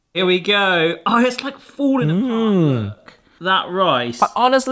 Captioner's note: Uncle Roger moans